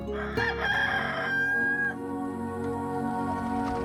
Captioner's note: rooster crowing